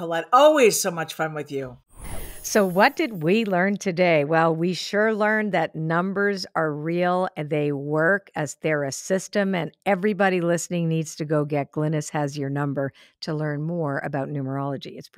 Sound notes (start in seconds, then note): 2.0 enchanted chiming